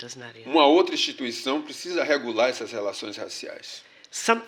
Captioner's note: speaking portuguese